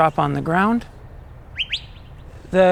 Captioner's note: birds chirping